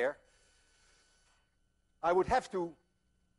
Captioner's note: inhales